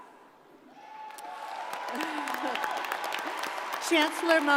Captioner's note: crowd applauding